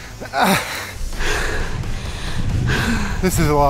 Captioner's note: grunting; panting; breathing deeply